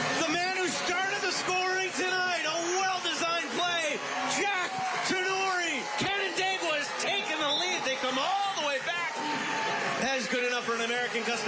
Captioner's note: applause